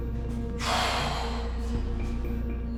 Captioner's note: sighing